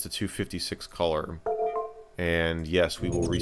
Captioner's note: information popup sound; shutdown sound